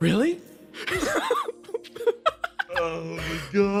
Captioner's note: laughs